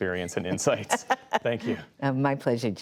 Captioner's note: laughter